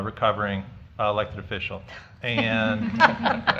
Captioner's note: laughter